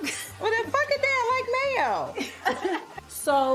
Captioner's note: laughs